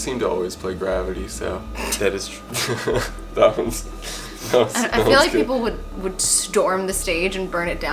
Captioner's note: snorts